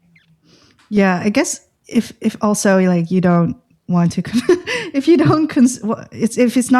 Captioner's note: laughter